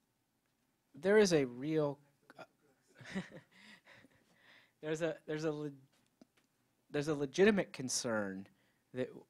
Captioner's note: chuckles